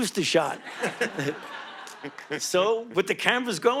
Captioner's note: audience laughing